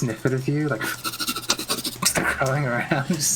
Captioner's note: sniffing noises